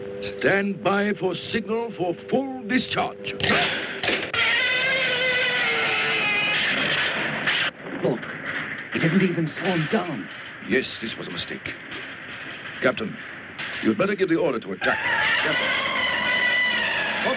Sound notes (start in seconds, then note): 4.1 Gammera screeching; 7.0 electricity crackling; 14.8 Gammera screeching